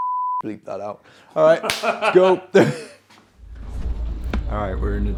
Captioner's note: beeping; man laughing; clapping